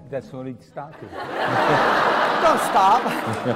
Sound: laugh

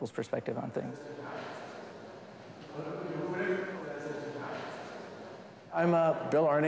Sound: chatter

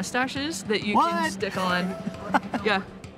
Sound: laughs

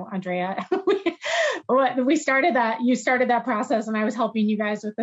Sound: laughs

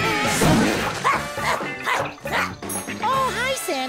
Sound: grunting

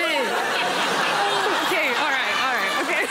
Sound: laughter

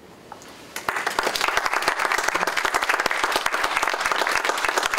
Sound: applause

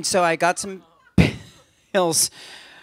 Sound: laughter

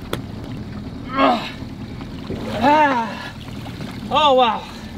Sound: groaning

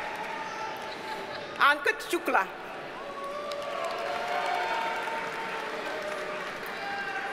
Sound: audience cheers and applauds; audience cheers and applauds

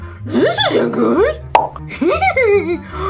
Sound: pop; hee hee hee hee

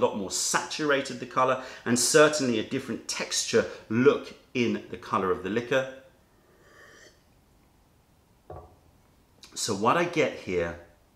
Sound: sips tea

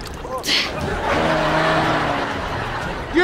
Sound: laughing

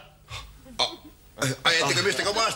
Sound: gasp

